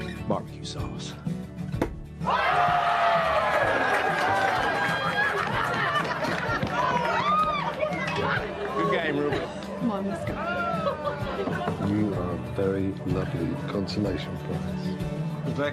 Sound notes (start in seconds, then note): 2.2 crowd cheers; 5.8 laughter, applause